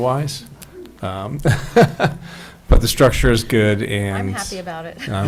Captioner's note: laughs